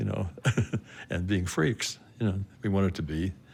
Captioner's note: chuckles